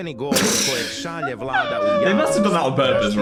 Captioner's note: Dan and Phil laugh